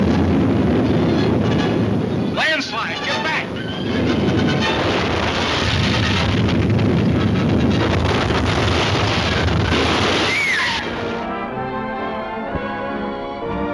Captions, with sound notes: Landslide, get back. (crashing) (screaming) (pleasant orchestra music)